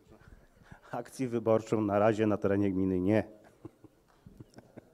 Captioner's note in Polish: śmiech